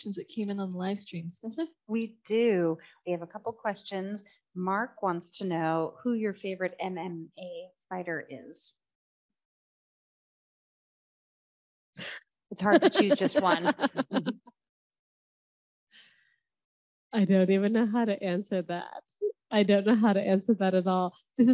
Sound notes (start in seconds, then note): 12.6 laughing